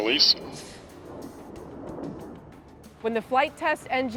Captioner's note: air whooshing